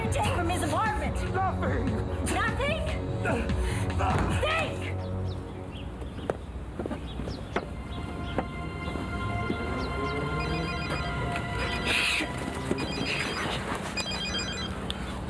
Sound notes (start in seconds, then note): 7.6 ominous music; 10.2 phone ringing